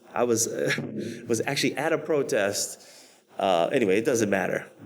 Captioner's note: laughs